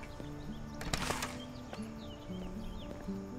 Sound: birds chirping

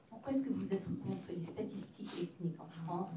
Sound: speaking french

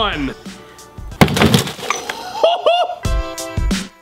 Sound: hammer bangs; laughs; dramatic music

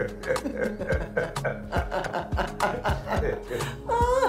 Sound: both laughing

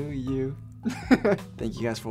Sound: laughs

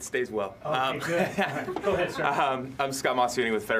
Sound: laughing

